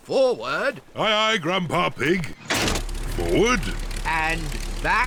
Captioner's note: lever clunks